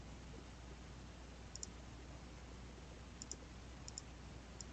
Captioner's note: mouse clicking